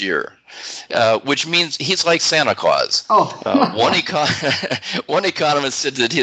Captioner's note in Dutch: Besmuikt lachen